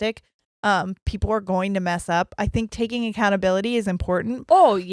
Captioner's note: none